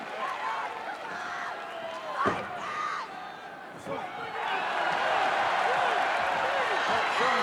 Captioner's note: applause